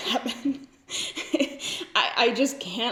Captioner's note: laughs